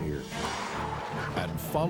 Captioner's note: tires screech